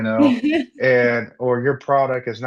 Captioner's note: laughs